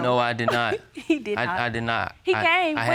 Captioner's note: laughs